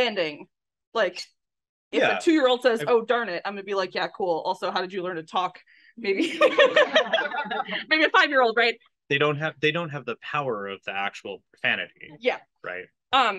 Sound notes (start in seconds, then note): 6.2 laughs